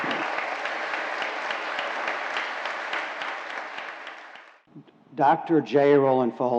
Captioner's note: applause